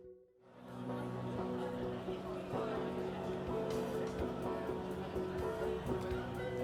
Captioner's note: crowd murmuring